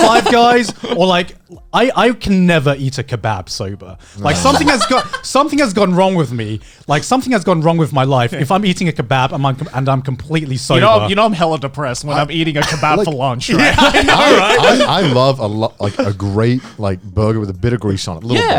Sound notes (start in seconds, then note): 4.2 chuckling; 13.4 laughing